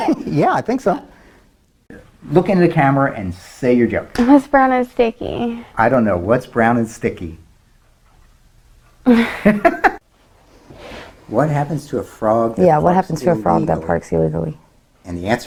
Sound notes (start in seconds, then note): 9.1 laughs